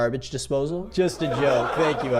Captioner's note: audience laughs